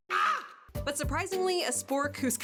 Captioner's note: screaming